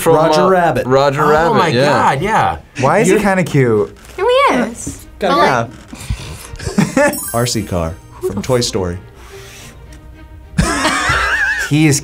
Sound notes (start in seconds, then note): 6.2 both laugh; 10.5 both laugh